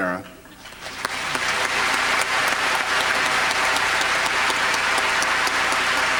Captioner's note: applause